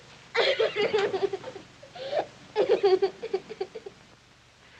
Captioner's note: sobbing